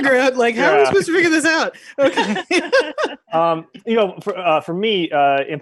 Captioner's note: all laughing